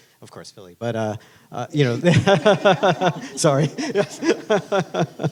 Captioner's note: laughing